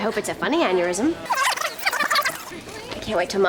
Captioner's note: rewind